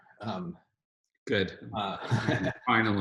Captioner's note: Noah laughs